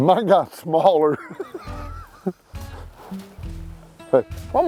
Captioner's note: laughs